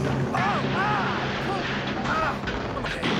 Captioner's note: <i> yelling</i>